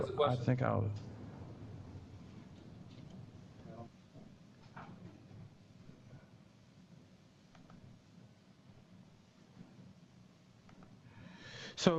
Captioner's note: pause